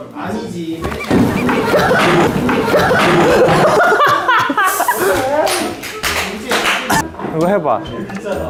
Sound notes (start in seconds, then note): 1.0 thud; 3.3 failed not to laugh